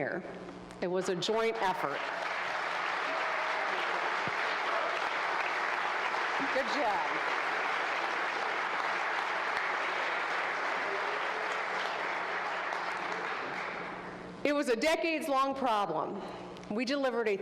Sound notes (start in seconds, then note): 6.2 applause